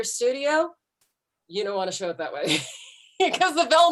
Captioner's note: laughs